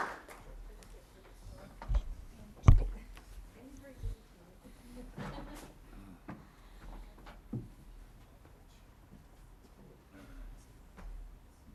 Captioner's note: applause